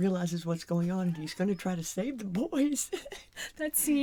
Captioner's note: laughing like an old women